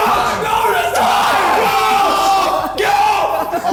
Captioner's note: men shouting